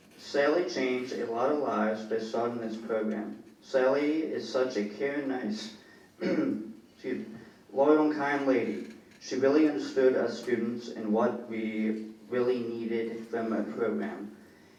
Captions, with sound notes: Sally changed a lot of lives, they saw in his program. Sally is such a caring, nice, (clears throat) excuse me. Loyal kind lady. She really understood us students and what we really needed from that program.